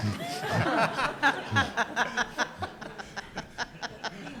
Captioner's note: audience laughs